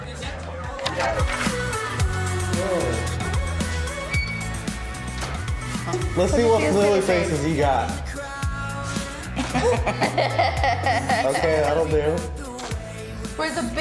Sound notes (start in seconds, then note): 1.5 upbeat music; 9.2 laughing